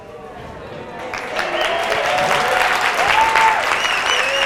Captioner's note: audience applause